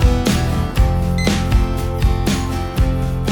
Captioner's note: beep Sound